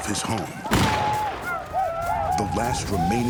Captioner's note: gunfire